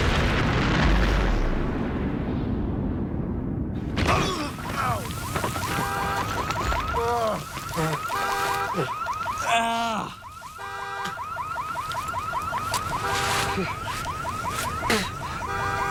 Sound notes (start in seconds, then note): 4.0 both grunt, car alarm blares, horn beeping; 7.6 spits; 14.7 spits